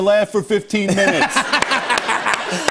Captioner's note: laughter